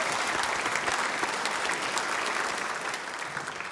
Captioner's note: applause